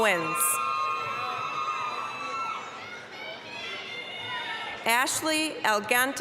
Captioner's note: applause, cheering